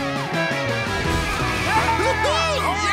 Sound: cheering

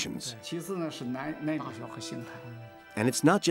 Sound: speaks in foreign language

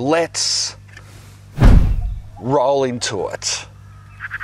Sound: air whooshes

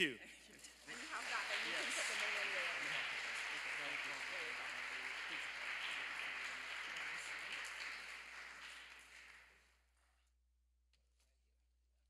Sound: applause

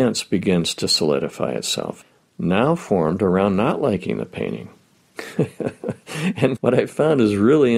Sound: laughing

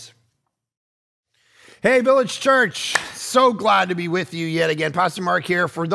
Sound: claps

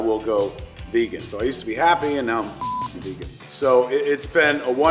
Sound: beep

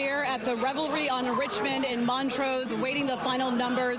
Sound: crowd noise

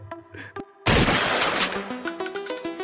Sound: gunshot

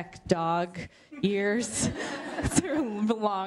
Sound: laughter

